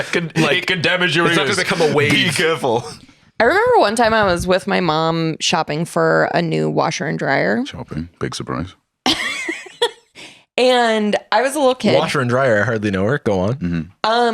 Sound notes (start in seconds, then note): 9.4 laughs